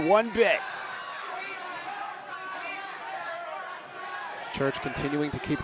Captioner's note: audience cheering